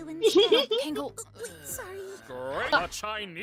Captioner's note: giggling